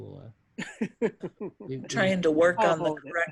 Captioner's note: trainee laughs